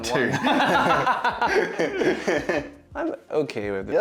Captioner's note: laughter